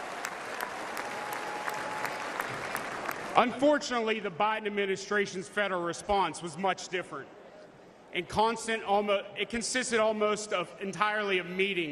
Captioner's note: cheers and applause